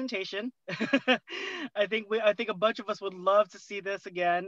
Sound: laughter

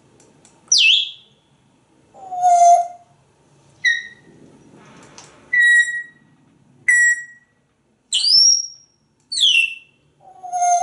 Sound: more whistles and tweets

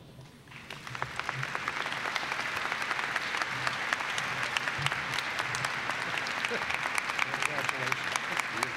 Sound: applause

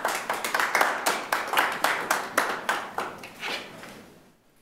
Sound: attendees applaud

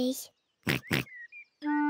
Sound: in normal voice; oinking

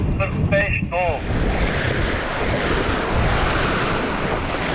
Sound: water splashing

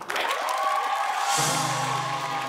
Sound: applause

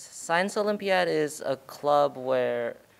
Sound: none

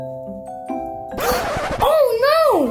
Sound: girl gasping

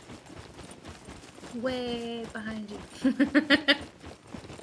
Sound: laughs

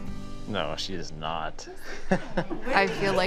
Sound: laughing

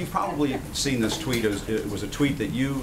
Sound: laughter

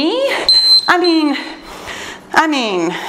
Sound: timer beeping

